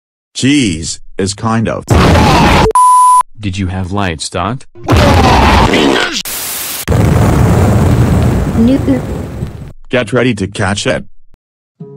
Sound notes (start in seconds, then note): 5.5 Pingas Sound; 6.7 explosion